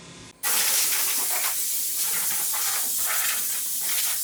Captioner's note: nozzle spraying